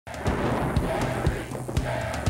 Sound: thunder crashing

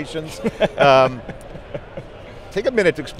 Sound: laughing

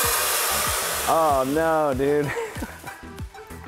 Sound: laughs

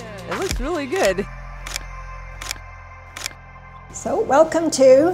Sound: camera clicking

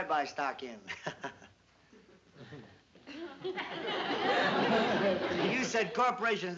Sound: laughs nervously

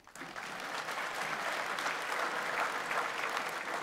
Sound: audience applauds

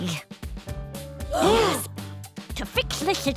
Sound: gasping

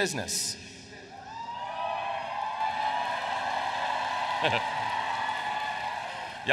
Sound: applause

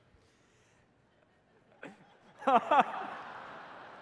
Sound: laughter

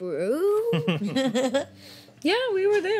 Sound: chuckles

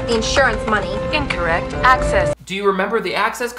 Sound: computer Voice

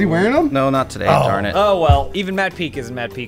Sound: disappointed groan

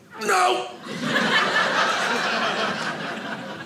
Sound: audience laughing

